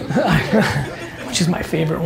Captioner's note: audience laughing